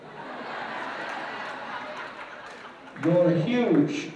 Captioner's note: laughter